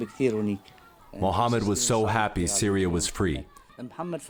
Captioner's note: through translator